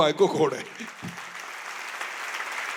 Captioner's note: applause